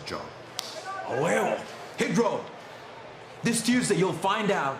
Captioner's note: spanish language